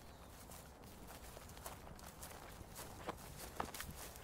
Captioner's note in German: Schritte